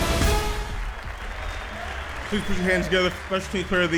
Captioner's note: applause